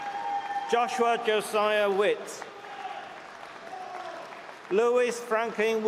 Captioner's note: cheering; applause